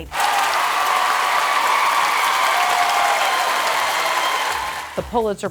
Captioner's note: audience applauding and cheering